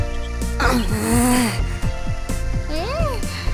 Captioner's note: grumble